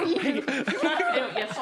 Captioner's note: laughing